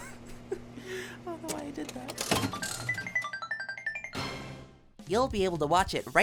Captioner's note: laughs